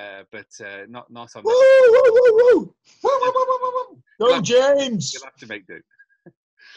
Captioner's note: panelists whoop and cheer and applaud!